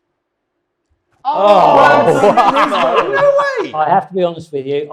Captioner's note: panel groans and laughs